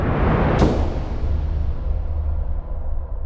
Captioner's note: booming sound